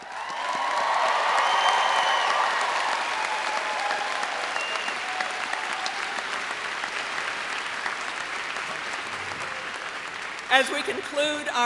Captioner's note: applause and cheering